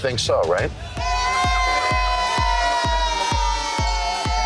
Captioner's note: cheering